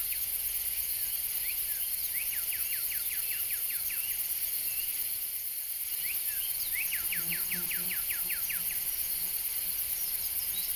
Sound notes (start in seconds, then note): none